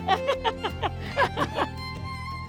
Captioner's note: laughs